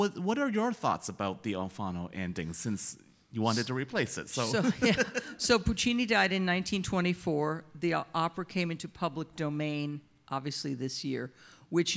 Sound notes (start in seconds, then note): 4.4 laughs